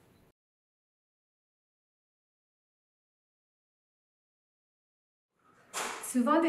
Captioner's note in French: silence